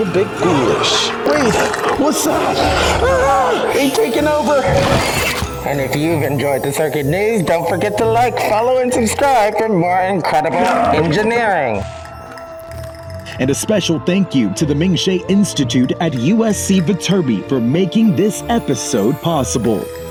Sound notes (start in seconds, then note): 2.8 scream